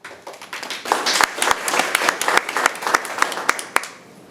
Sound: people clapping

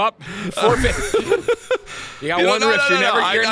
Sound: laughs

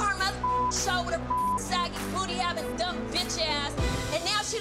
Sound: beep

